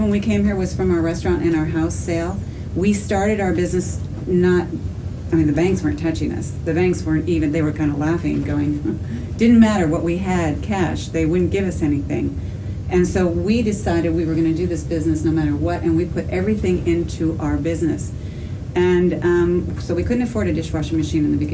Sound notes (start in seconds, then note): 8.7 laugh